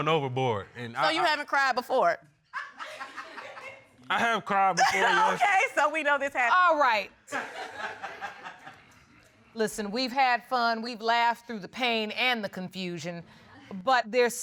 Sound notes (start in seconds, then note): 3.2 audience chuckles; 4.8 laughs